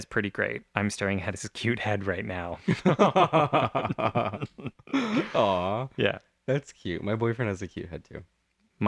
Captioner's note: laugh